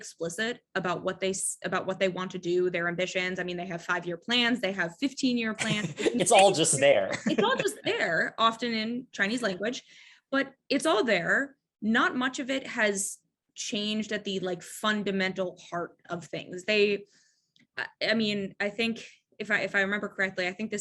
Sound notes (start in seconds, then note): 5.6 laughs